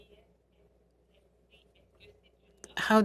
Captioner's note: speaking french